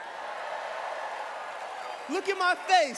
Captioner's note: cheering